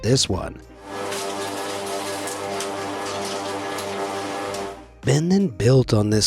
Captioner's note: movie projector hums